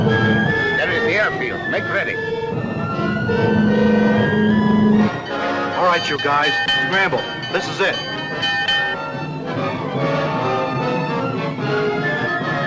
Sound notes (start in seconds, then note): 7.2 bell ringing; 9.3 suspenseful music